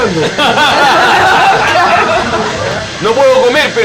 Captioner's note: laughs